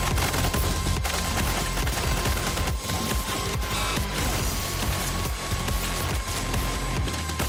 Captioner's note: guns chattering